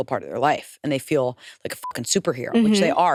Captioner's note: beep